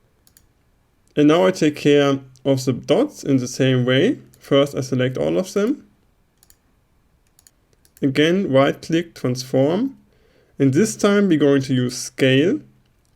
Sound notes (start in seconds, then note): 7.2 right click